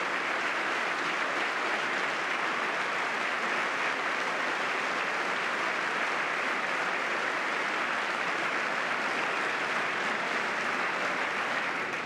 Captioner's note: applause